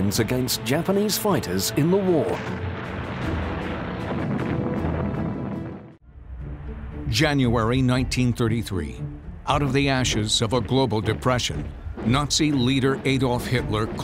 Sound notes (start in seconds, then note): 2.3 airplane explodes